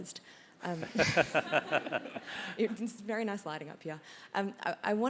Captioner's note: laugh